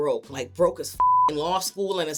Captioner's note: beep